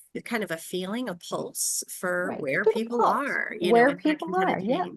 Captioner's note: speaks faintly